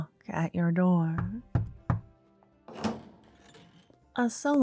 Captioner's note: doorknock, door opens, high heel footsteps are heard